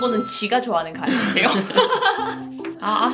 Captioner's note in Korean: ㅋㅋㅋㅋㅋㅋㅋㅋㅋㅋ